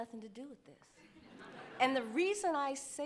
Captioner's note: audience laughing